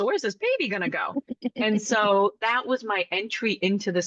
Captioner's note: laugh